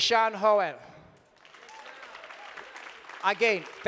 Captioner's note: audience applauding